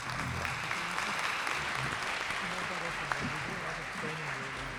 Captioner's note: applause